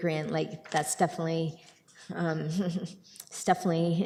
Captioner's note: chuckles